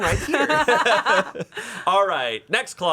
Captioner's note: everyone laughs